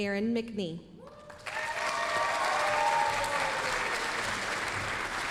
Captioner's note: applause, cheering